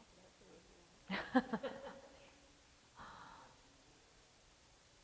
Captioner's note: laughing